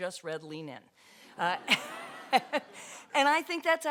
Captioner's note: audience laughter